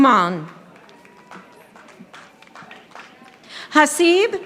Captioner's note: audience applauding